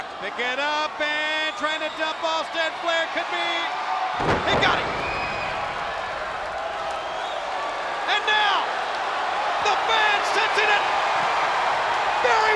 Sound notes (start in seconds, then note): 5.3 spectators cheering and applauding; 10.7 spectators cheering and applauding